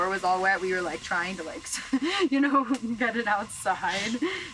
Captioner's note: chuckles